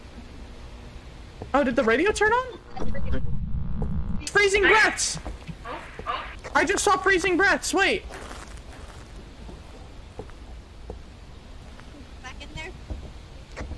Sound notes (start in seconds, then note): 2.6 radio buzzes; 7.2 over Radio